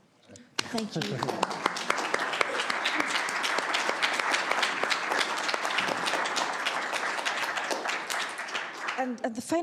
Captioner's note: applause